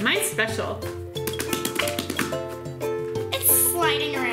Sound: rhythmic slapping

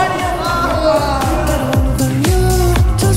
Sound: cries from everywhere

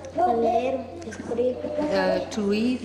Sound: non-english speech

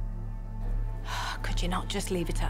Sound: sighs

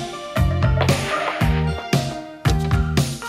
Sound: tires squealing; door clicking

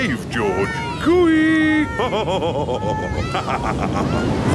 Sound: laughs

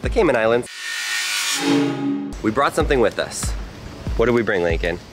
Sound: electronic tone

